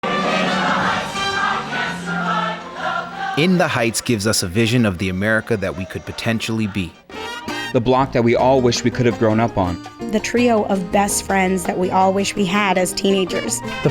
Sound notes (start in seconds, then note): 0.0 singing and music; 3.4 cast members speaking; 7.0 horn accent